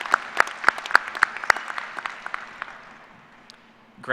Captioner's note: applause